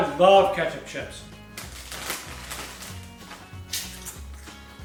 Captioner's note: wrapper crackling